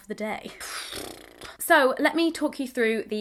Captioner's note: sighs